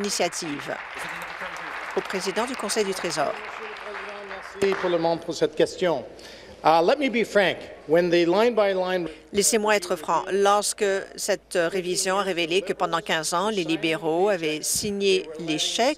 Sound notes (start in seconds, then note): 3.3 applause; 6.1 speaking in French